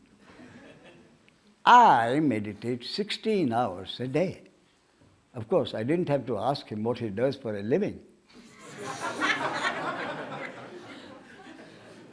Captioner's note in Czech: smích